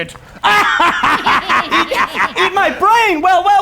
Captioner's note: Neato cackling